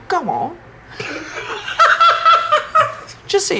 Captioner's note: laughing